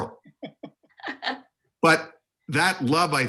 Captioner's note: laughter